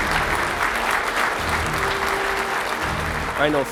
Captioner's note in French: applaudissements